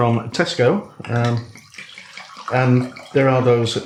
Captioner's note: glug glug